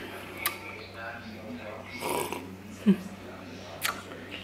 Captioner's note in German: schlürfgeräusch